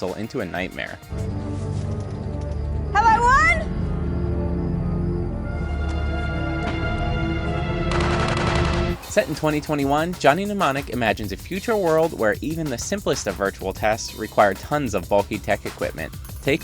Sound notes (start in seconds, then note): 1.3 eerie music; 7.9 guns firing